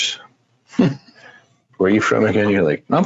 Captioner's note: laughs